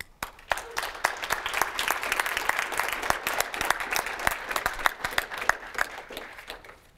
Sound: applause

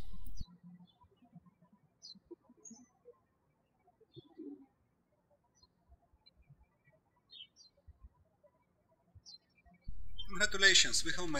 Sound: birds chirping

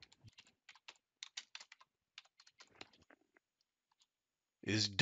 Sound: keyboard clicking

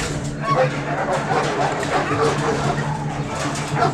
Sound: dramatic music; dogs barking

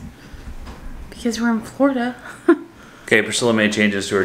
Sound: laughing

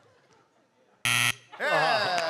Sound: buzzer

